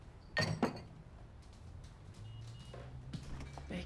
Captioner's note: glass clinks